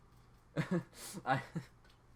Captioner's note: laughs